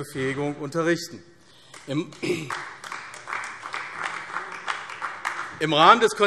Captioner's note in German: Beifall AfD